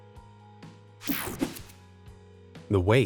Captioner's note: image whooshing; calm music